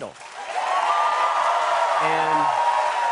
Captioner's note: cheers and applause